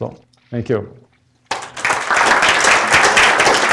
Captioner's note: applause